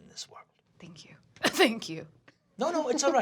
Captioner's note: coughs